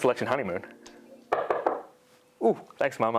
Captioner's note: knocking